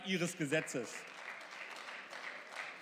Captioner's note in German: Beifall